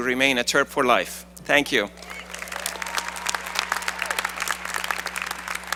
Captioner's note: applause